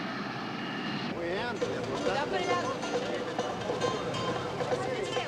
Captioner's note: indistinct chatter